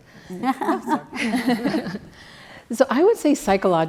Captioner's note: laugh